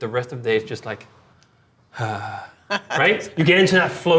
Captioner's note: softly sighs; laughing